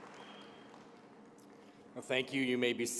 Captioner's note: applause